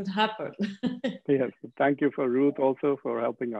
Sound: laughing

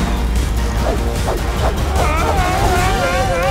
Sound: whooshing; yelling

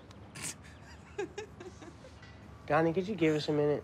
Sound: Maddie laughs

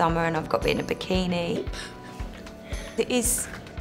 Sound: laughter

